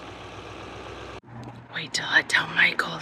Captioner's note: whispers